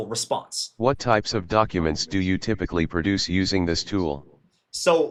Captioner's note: NVDA talking